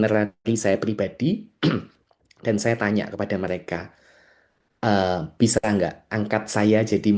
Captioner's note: berdehem